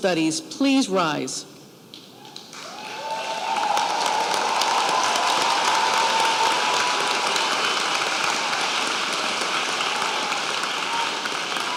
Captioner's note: applause